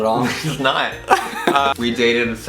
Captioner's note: laughter